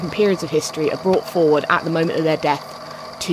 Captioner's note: tape recorder clicks off